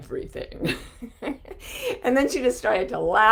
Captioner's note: chuckling